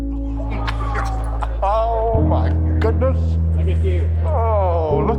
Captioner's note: laughing